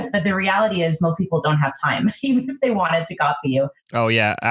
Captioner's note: laughs